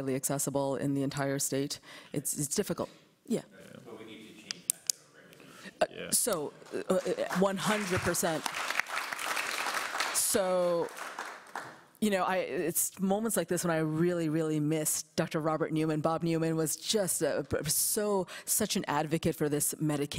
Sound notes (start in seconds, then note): 11.8 applause